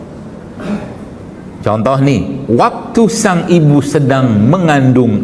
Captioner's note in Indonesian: berdehem